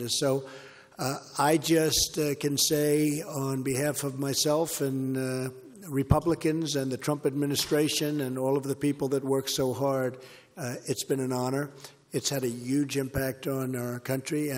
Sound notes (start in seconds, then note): none